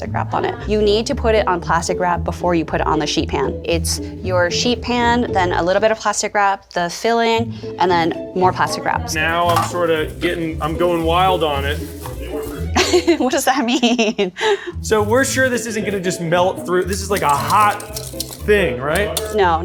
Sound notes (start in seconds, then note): 12.2 laughs